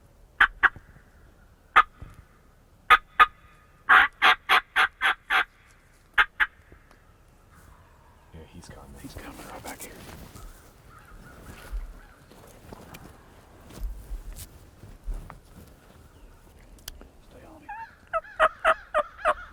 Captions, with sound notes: (squawking begins) (squawking continues) - Yeah, he's coming. - He's coming right back here.